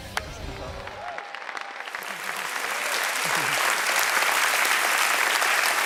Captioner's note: audience clapping